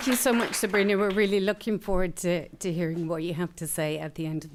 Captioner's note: applause